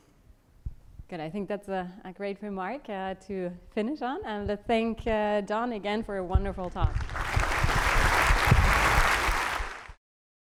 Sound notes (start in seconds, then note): 6.9 applause